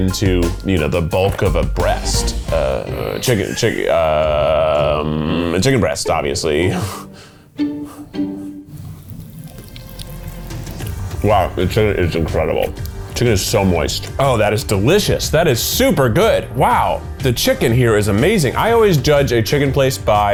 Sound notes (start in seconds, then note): 3.7 stammers; 7.9 laughs